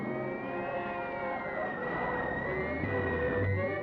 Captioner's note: scanner whirring